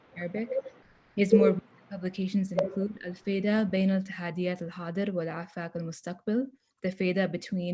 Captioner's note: non-english speech